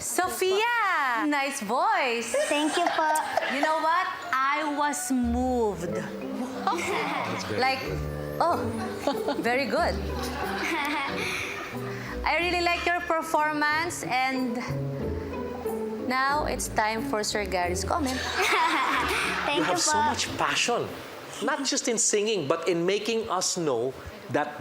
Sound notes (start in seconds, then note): 6.3 giggles; 10.4 giggles; 18.0 laughs